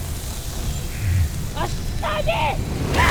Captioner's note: infernal whoosh-crackle